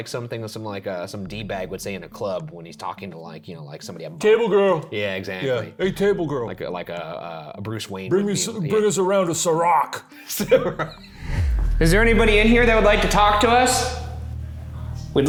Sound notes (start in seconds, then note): 10.3 laughs